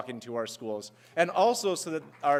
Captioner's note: applause